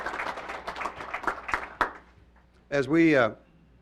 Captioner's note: applause